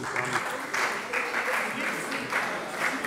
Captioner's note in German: Beifall bei der SPD